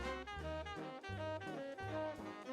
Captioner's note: none